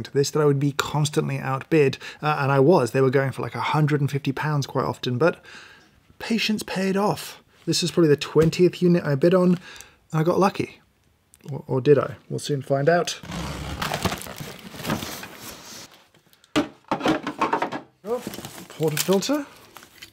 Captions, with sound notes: that I would be constantly outbid and I was. They were going for like £150 quite often, but patience paid off. This is probably the 20th unit I bid on. I got lucky or did I? We'll soon find out (carton rattling) portafilter